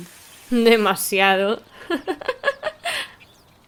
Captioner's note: laughs